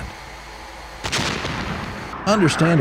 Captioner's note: missile firing